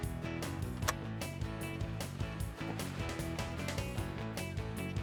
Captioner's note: upbeat country music; loud gunfire